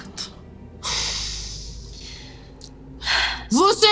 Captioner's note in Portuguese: suspiro